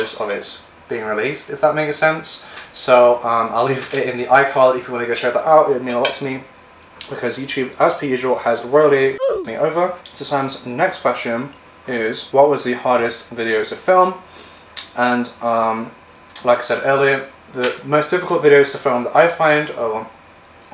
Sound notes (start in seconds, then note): 9.2 ooh! Effect